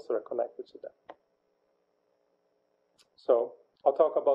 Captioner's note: pause